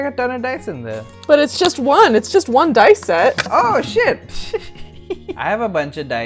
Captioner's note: laughs